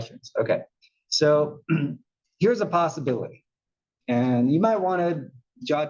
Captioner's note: cough